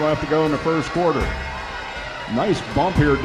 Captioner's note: crowd Noise